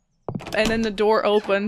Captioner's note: footsteps; handle turning and door creaking